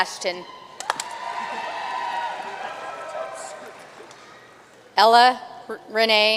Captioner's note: audience cheering and applauding